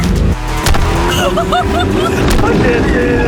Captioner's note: laughing